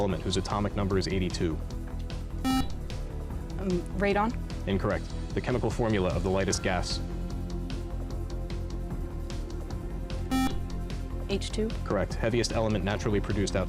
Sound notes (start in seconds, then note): 2.4 buzzer; 10.3 buzzer